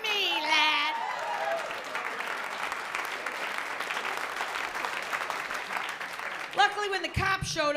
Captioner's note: applause